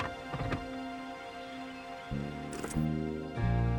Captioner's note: car clanking